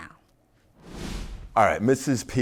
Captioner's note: logo whooshing